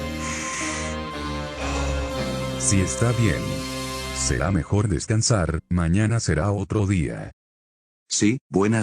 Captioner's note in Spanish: suspiro